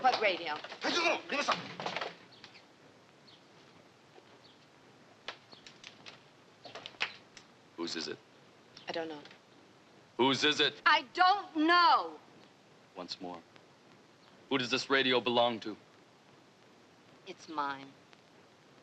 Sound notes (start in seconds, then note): 1.4 speaking Japanese